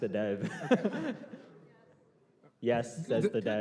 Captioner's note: laughter